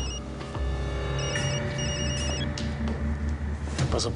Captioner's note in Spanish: Suena un celular